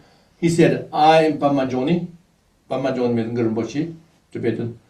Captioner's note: tibetan